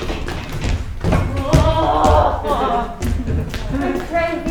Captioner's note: Rosalind groaning